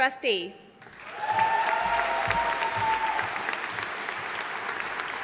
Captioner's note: audience applauding